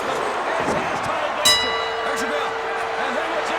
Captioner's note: bell rings